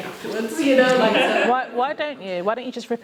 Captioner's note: laughter